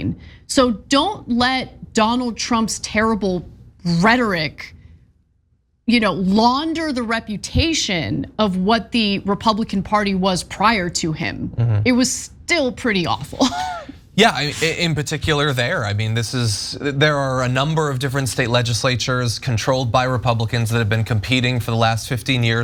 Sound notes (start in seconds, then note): 13.2 laugh